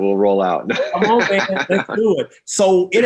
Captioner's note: laughs